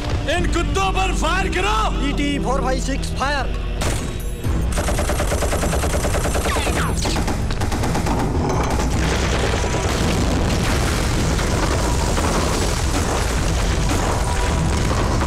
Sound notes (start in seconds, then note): 4.4 Rapid gunfire; 8.8 Explosion